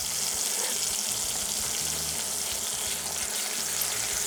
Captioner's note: sizzling sound